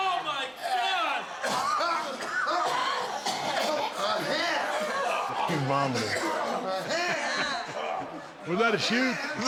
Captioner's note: cough